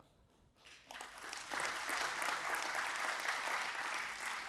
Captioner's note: audience applauding